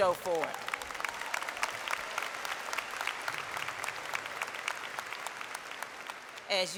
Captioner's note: applause